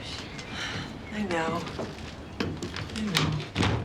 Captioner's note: sighs